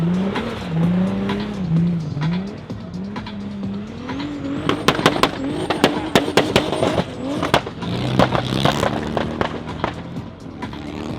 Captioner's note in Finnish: moottorin ääni